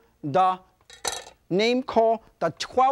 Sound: knife clatters

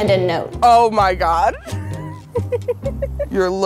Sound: laughs

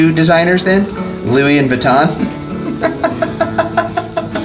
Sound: laughs

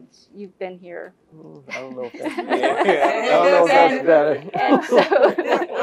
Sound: laugh

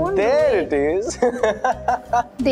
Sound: laughing

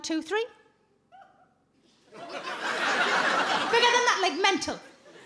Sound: giggles

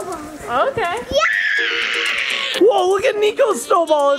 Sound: yells

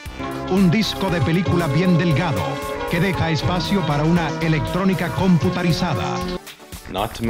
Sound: Spanish

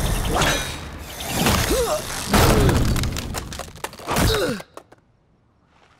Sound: grunting

